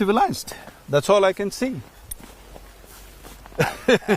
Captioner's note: laughs